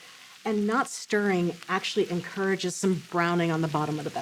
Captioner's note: gentle sizzling